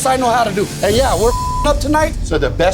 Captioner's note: beep